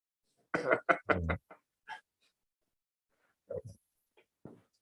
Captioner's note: laughter